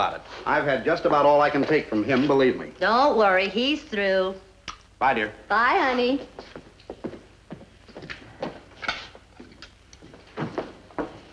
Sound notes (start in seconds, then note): 7.5 footsteps fading